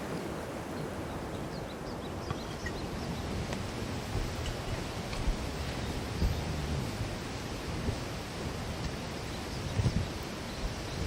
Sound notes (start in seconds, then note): 0.7 birds singing